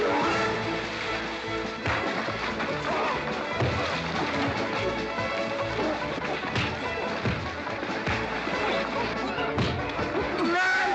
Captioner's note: splash; western fight music; sounds of scuffling & fighting